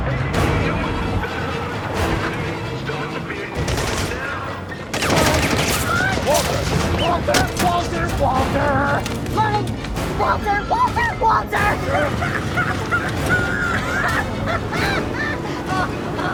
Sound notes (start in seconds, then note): 0.1 loudspeaker echoes faintly; 5.2 gunshots whistle; 12.6 Walter cackling; 16.1 dramatic music continues